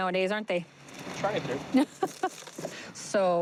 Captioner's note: laughter